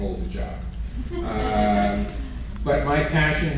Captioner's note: sporadic laughter